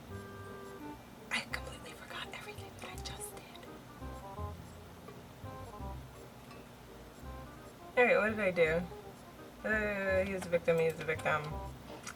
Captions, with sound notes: *whispers* I completely forgot everything that I JUST did all right what did I do... uh he was a victim he was a victim